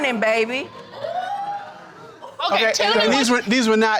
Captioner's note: crowd wooting